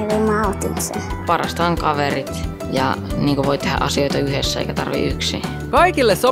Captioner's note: child speaking